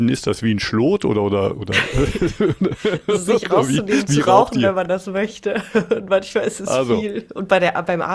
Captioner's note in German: gelächter